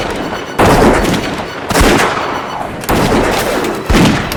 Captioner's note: gunfire